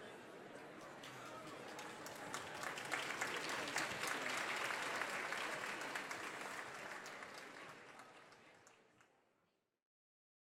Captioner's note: applause